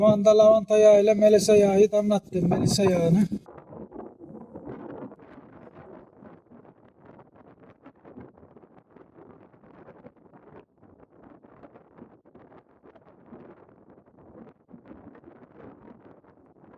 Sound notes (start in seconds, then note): 4.0 strong wind noise, hum, rustle